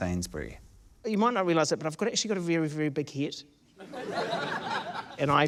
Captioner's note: laughter